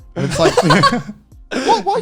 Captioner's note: laughs